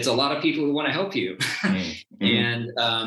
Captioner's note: chuckles